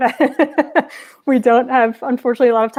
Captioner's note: laughing